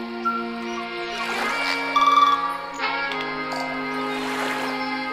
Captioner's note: upbeat music; sloshing water; birds chirping